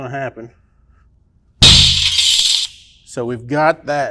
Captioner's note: alarm sounding